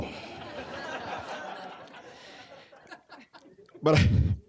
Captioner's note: audience laughing